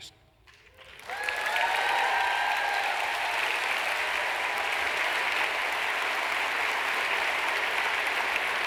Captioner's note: applause